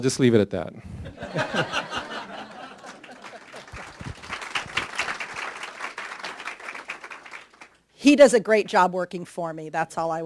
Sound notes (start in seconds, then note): 0.8 applause; 0.8 laughing